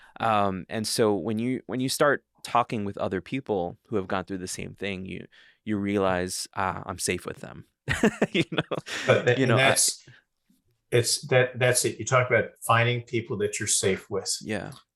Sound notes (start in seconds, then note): 7.9 laughing